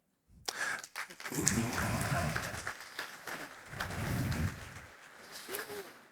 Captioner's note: applause